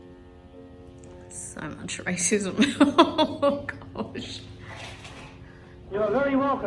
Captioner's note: laughs uncomfortably with derision